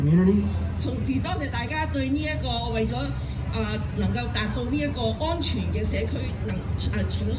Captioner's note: speaking foreign language